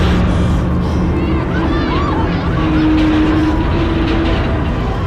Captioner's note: people screaming